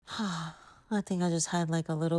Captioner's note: sighs